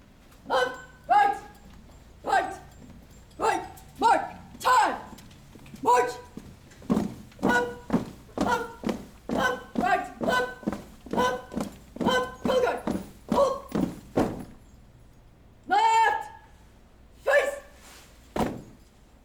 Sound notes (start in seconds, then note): 4.5 shouted commands